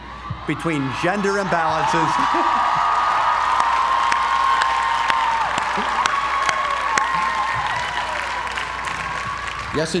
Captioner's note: applause